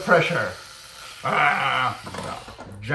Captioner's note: argh